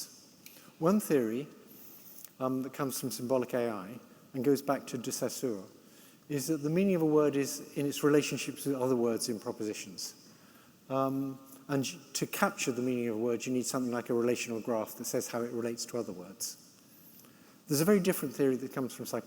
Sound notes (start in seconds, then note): none